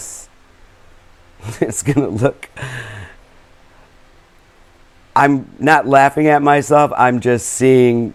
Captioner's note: laughter